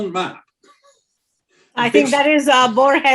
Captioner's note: laughs